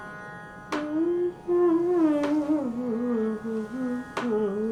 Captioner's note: instrumental music; humming